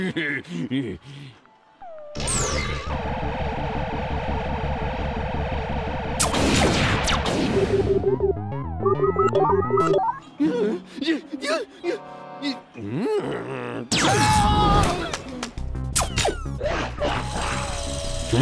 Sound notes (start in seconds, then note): 1.9 electronic blips; 6.5 electronic blasting; 7.5 beeping; 10.4 whimpers; 12.7 grunts; 14.1 electronic blast; 16.0 electronic blasting